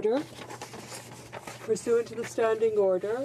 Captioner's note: speaking French